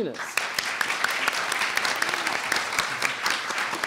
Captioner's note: audience applauds